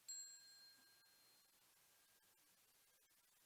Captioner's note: bell chiming